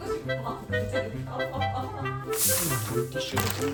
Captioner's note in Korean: 웃음